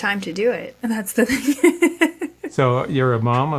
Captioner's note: laughs